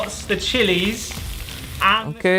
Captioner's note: oil sizzling